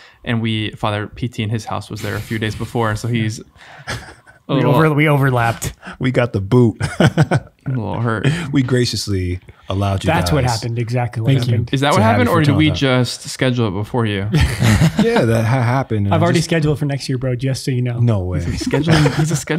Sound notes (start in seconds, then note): 6.8 laughing; 14.3 group laughing